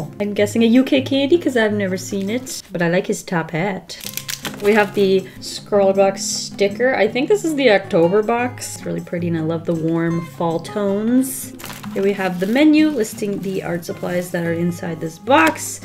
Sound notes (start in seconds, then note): none